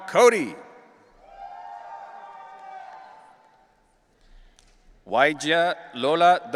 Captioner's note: audience cheering